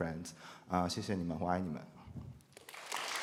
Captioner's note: speaking Chinese